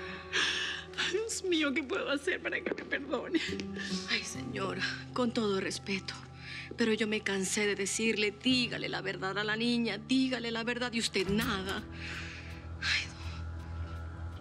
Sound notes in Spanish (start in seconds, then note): 12.6 suspiros